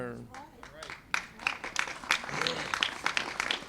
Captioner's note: applause